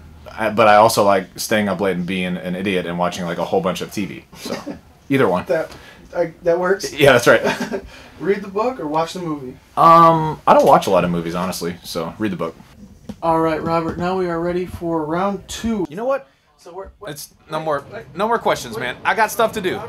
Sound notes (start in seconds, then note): 7.3 laughter